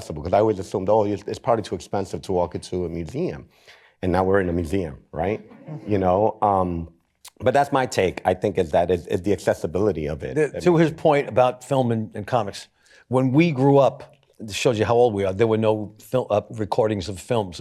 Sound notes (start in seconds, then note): 5.8 laughter